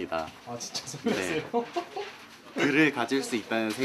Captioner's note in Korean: 웃음